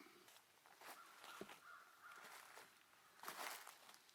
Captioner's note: crows cawing; footsteps pattering